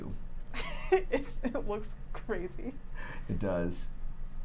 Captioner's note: laughs